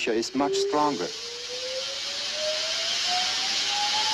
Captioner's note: engine accelerating